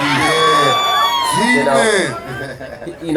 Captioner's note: audience cheering